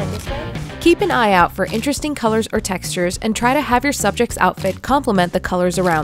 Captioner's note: voiceover